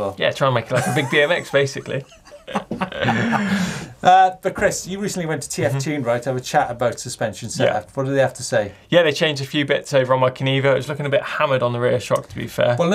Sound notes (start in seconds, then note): 2.3 both laugh